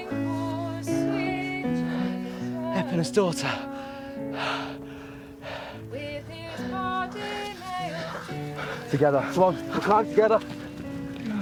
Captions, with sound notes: Epona's daughter. (panting) Together, come on, we'll climb together.